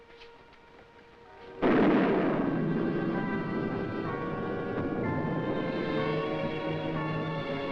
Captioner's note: intense music; thunder rumbling